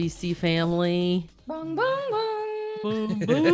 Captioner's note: humming NBC's melody